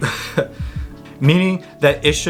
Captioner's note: chuckles softly